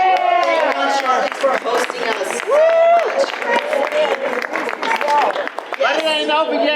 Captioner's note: audience applause